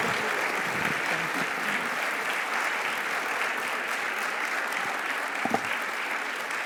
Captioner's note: audience applauding